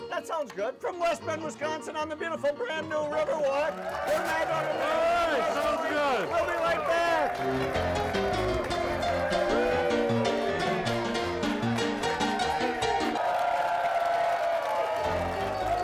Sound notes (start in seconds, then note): 3.4 audience cheering; 8.4 lively piano music; 13.7 crowd cheering; 14.8 piano music; 15.6 crowd cheering